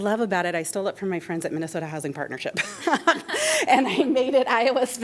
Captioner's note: laughter